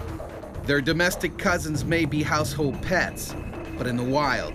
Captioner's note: voiceover